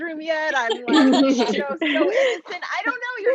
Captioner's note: laughs